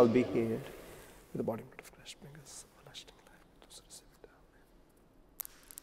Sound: whispering

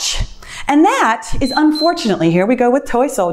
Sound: timer beeps

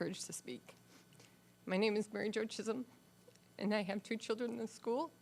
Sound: voice wavering, sniffling

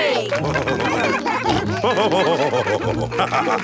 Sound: all cheering; laughing

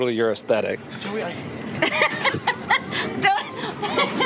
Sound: laughing

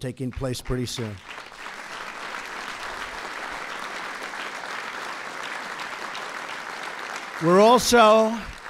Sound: applause

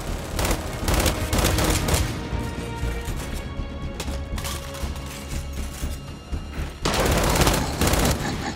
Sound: grunts

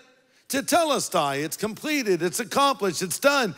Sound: speaks in foreign language

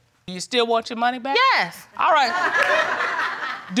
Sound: audience laughs

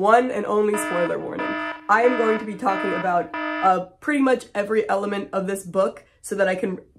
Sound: alarm sounds

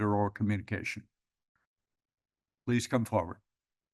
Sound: pause; pause

